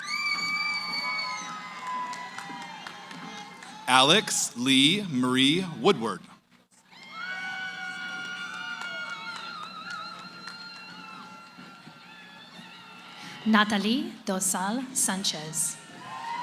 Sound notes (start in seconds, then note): 0.0 cheering; 6.8 cheering